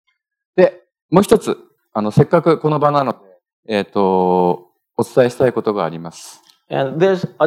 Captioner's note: speaking japanese